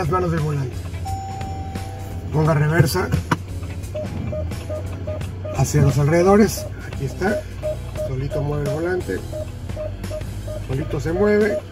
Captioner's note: beeping alarm; alarm beeping